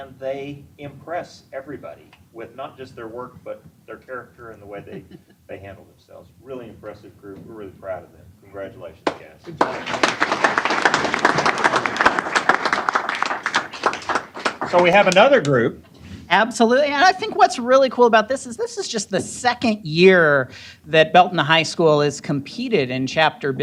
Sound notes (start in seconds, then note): 9.4 applause